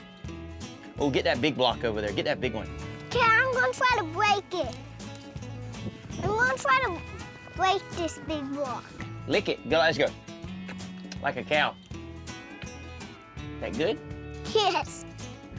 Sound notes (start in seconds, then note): 10.6 licking sound; 14.6 laughing